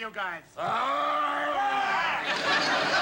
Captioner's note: growls; shouts; laughter